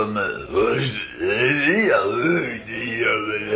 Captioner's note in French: Voix style mec bourré qui s'éxprime